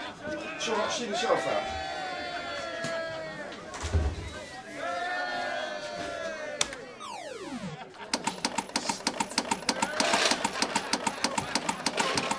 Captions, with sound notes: It's all right. I can see meself out. (CLATTER OF COINS)